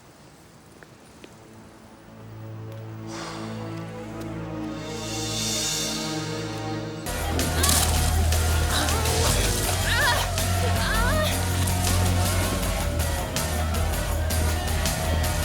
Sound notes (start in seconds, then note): 0.2 footsteps tapping; 2.1 suspenseful music; 3.4 John sighs; 7.4 energetic rock music; 8.2 water splashes; 10.2 crowd cheering; 10.2 women moaning